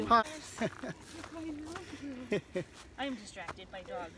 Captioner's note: laughs; murmurs